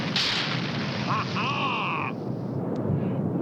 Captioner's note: grinch laughs